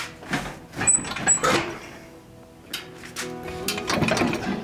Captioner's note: car rattling